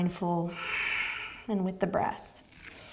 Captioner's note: exhales